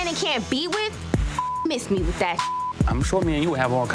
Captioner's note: beep